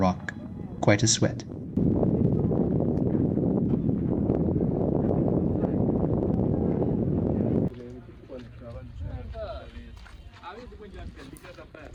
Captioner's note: wind